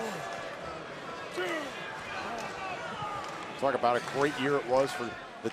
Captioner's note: crowd chatter